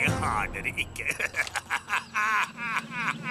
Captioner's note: laughs